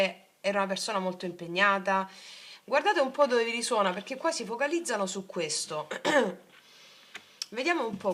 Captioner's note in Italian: schiarire la voce